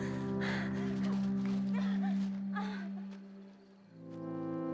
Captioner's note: insects chirping; gentle music